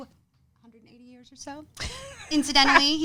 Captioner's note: laughs loudly